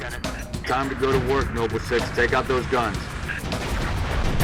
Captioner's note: radio